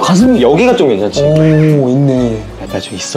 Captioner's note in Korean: 감탄